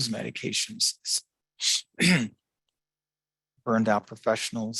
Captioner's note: clears throat